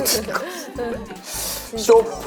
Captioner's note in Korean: ㅋㅋ